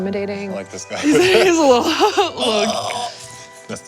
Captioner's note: laughs